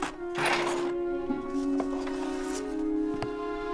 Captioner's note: clutter rattling